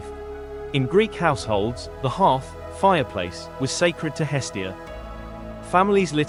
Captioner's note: fireplace